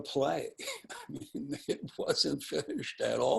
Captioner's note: chuckling